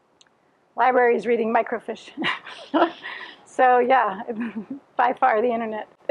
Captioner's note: laughs; laughing